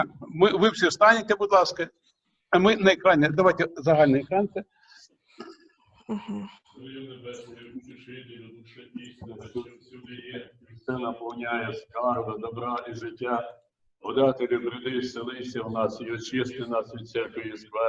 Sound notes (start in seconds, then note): 6.7 sounds of prayer